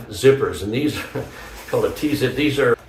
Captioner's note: chuckles